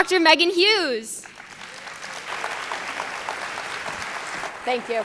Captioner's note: audience clapping